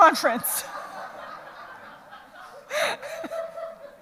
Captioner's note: audience laughs